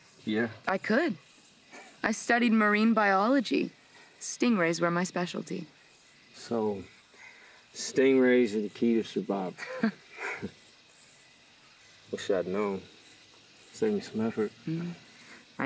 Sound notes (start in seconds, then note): 9.5 chuckling